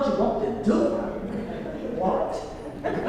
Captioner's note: laugh